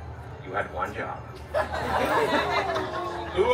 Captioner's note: guests laughing